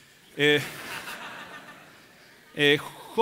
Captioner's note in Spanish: Risas